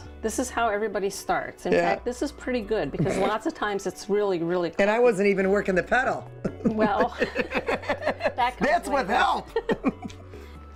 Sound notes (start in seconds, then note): 3.0 snorting; 6.4 laughing; 6.4 laughs